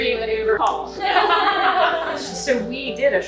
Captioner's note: laughing